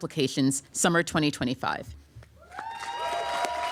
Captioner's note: applause